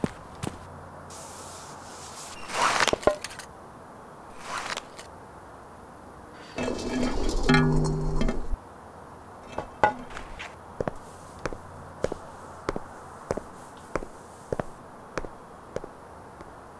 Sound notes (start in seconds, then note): 2.3 zipping sound; 6.8 hollow clunk; 10.7 thump of footsteps